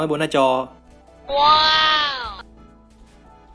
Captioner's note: happy noises